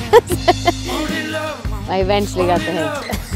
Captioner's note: laughing